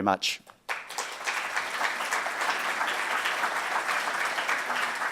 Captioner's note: audience applauds